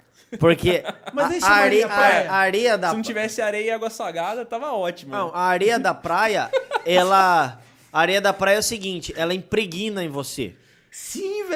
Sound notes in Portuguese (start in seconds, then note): 6.4 risos